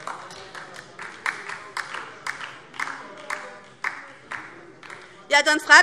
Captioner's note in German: Beifall DIE LINKE - Zurufe BÜNDNIS 90/DIE GRÜNEN - Zuruf CDU: Zuhören!